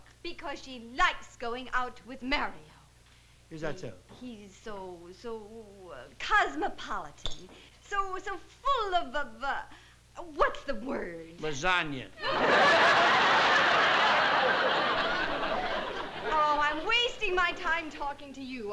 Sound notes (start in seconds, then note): 12.2 laughter